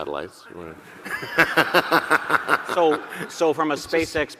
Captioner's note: audience laughing; laughs